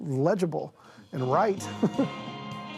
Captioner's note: chuckles